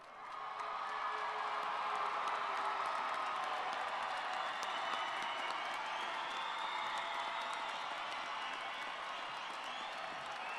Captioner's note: cheers and Applause